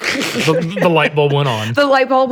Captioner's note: all laugh